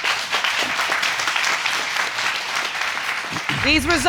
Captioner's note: audience applauding